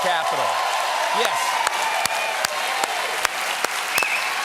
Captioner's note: cheers and applause